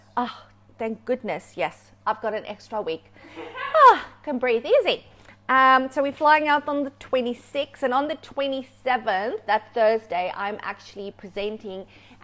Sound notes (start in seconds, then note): 3.2 sighs; 3.3 laughing